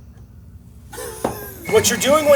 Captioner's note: chuckling